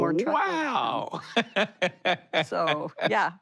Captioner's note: laughs